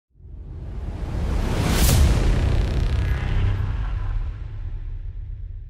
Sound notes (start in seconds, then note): 1.2 mechanical whooshing